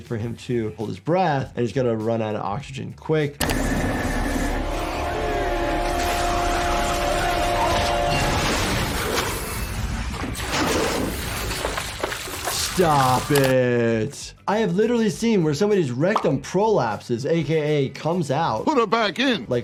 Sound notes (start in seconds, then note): 3.4 tense music; 3.4 pump churns; 8.6 water roars